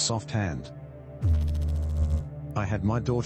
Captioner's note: electrical noise